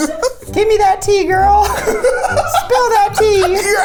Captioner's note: laughs